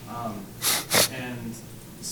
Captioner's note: sniffles